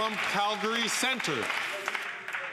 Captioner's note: some Applause